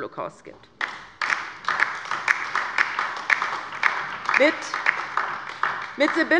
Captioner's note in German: Beifall bei der LINKEN